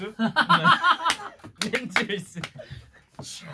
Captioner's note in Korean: 축하의 박수